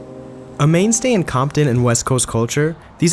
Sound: voiceover

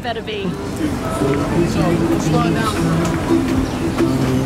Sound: crowd talking

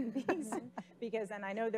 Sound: laughing

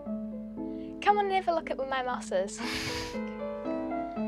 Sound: laughs

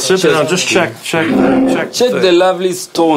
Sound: chatter

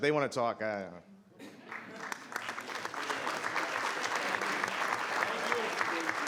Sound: audience clapping

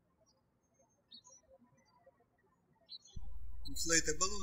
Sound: birds chirping

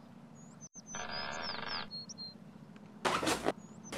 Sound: seesaw creaks; balloons squeak

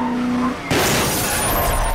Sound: crashing

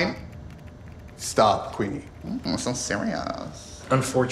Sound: mocking tone

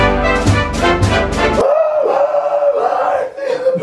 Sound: presidential music plays; screams

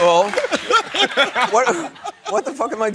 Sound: laughter

